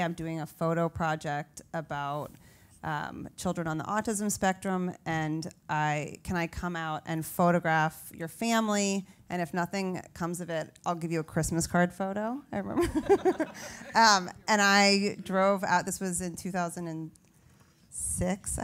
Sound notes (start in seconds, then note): 14.4 laugh